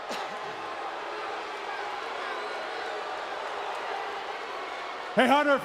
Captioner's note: audience jeering